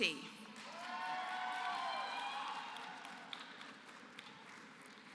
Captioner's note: applause